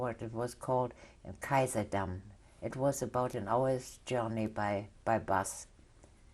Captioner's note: german